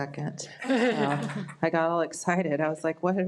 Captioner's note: audience laughs